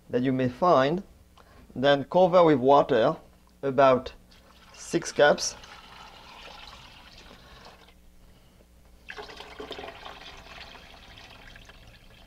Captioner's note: pouring sounds